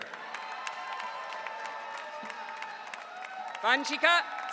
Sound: audience cheering

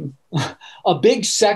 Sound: laughing

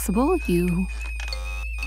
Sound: buzzer sounding

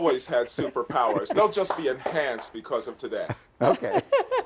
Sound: laughter

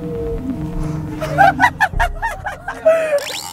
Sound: laughing at the show

